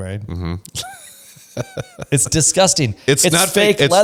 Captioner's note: laughs